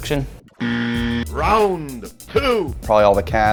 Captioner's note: voiceover